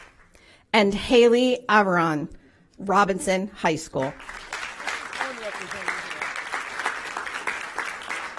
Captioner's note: applause